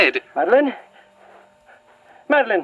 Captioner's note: shuffling